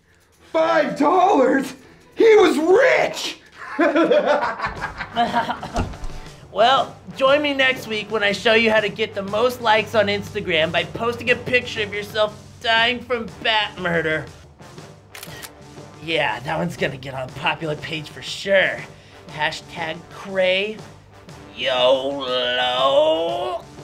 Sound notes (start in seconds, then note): 4.6 coughing; 14.9 click!